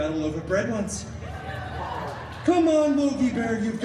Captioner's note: guests cheering